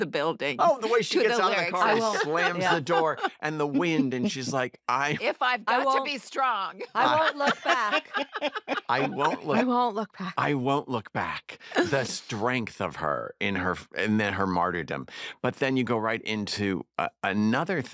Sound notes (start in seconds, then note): 6.8 laughter